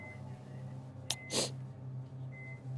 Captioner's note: Wendy sniffles